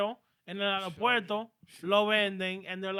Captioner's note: speaking In Foreign Language